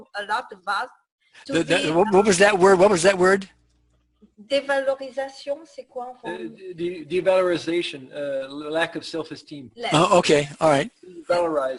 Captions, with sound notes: that I know a lot about. - What was that word? (foreign language) - Devaloration, lack of self esteem. - Yes.